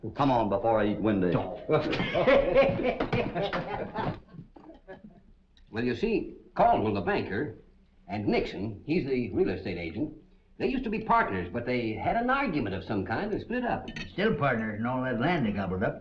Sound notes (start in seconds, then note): 1.8 all laughing